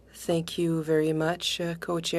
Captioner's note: speaking French